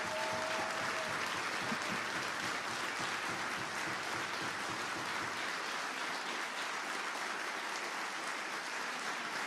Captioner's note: applause